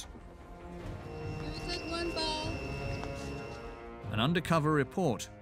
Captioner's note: speaking foreign language